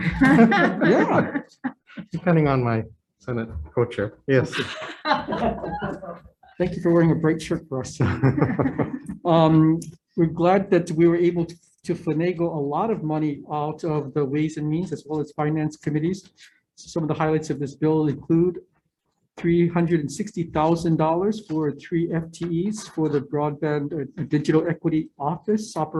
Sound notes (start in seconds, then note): 4.3 representatives laughs